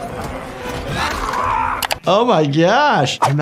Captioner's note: man screams